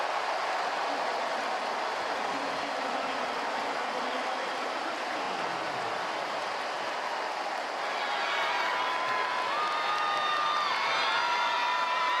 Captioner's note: crowd cheering